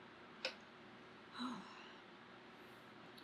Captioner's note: exhales loudly